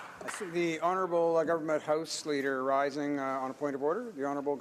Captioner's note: some Applause